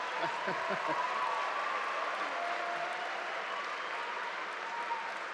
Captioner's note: audience applauding; audience laughing; audience cheering